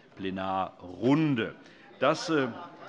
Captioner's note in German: Vereinzelter Beifall